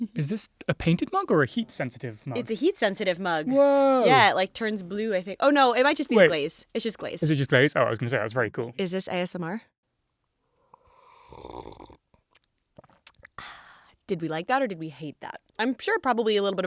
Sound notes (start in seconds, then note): 10.6 slurping